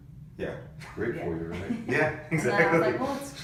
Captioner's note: laughs